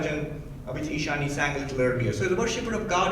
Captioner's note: speaking in foreign language